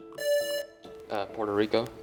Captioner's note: buzzer rings